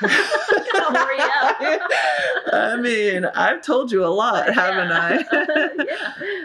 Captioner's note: laughter